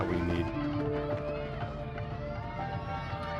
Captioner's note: cheering